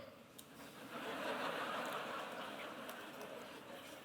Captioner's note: laughter